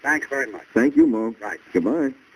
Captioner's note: on phone